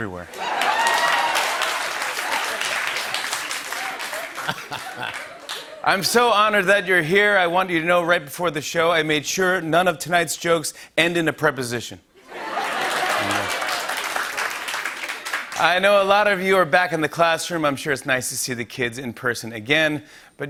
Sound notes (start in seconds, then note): 0.3 laughter, cheering, and applause; 12.2 laughter and applause